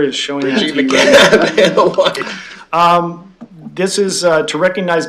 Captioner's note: laughing